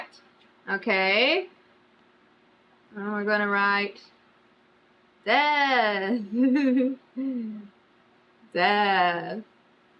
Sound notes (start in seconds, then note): 6.2 laughs